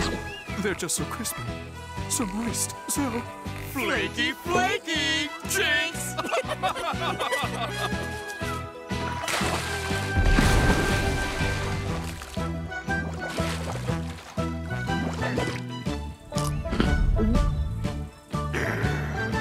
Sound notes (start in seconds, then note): 6.1 laughter; 17.1 swallows